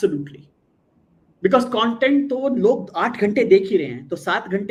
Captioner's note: non-english speech